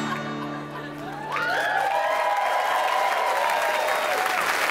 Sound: audience cheering

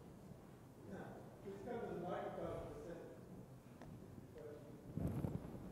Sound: speaking from off mic

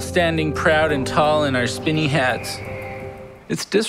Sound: eagle cries

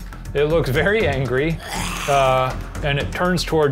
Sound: low roar

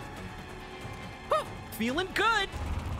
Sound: Sonic Voice

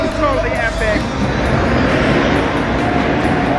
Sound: dirt bike engine revs

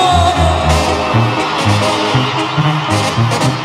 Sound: gritos

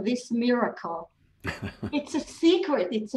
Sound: chuckles

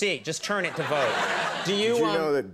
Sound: audience laughing

